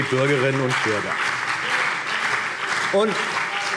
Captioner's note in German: Beifall